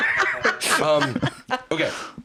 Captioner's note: laughs